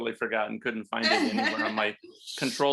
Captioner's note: laughter